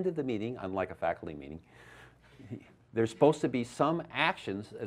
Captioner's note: laughs